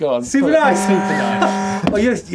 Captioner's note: horn honking